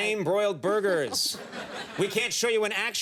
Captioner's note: laughter